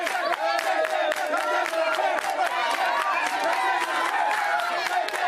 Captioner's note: crowd chanting